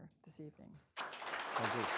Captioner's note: applause